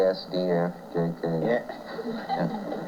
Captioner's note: laughter